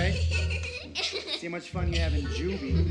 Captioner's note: giggling